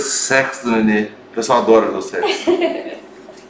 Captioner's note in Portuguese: risos